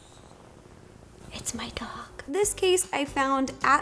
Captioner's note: whispers